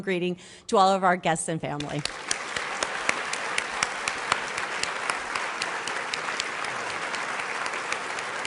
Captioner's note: applause